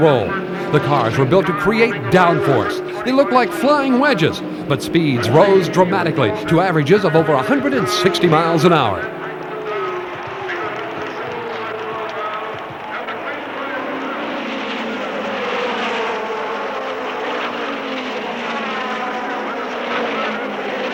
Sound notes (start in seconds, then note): 9.8 crowd clamors; 9.8 engines roar; 16.7 engines whine